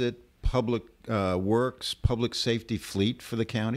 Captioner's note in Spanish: Hablando ingl\s